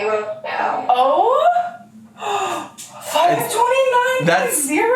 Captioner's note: gasps